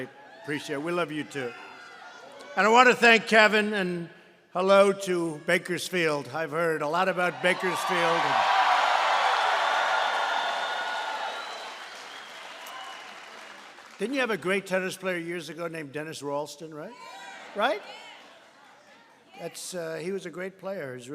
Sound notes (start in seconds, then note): 7.5 applause